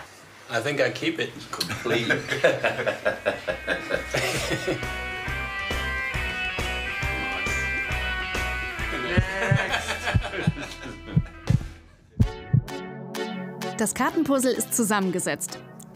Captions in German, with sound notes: (Sie lachen.) (Lockere Musik) (Herzpochen) (Elektronische Klänge) Das Kartenpuzzle ist zusammengesetzt.